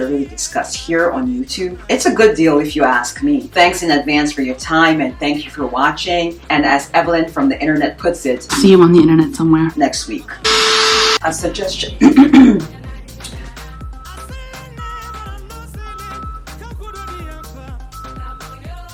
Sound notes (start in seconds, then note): 10.4 buzzing; 12.1 clears throat